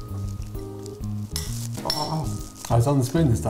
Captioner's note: spoon clinks in bowl